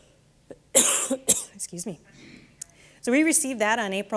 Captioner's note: coughing